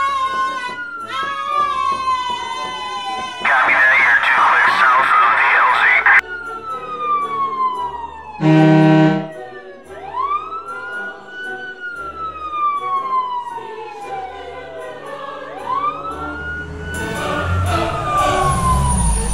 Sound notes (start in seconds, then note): 3.4 police radio; 6.2 siren; 8.3 fire truck horn; 9.4 siren, music continuing; 16.8 fire truck arrives and stops